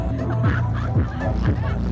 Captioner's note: laughing